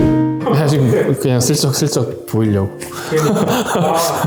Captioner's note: laugh